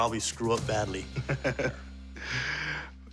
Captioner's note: laughs